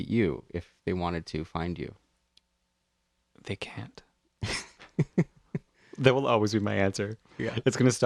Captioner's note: laugh